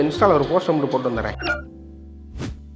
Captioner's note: warning tone